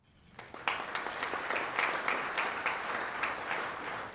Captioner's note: audience applauding